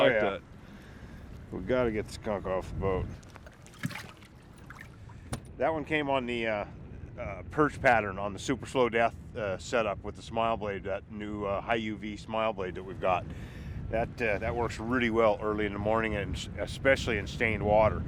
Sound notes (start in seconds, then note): 3.2 fish splashing